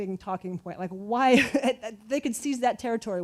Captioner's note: chuckles